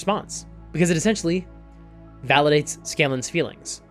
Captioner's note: none